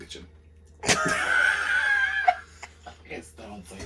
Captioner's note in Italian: risate incontrollabili